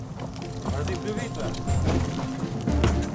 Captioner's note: chef speaks in French